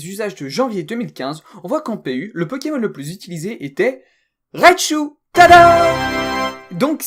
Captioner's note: victory sound